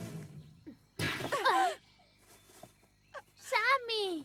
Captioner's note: gasp